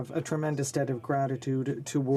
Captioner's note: speaking French